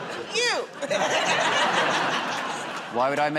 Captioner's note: laughs